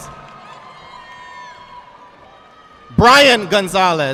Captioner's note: audience clapping